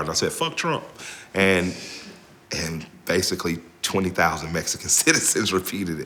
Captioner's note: laughs